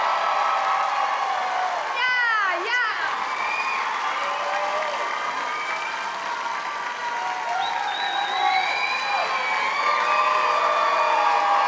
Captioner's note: applause; cheering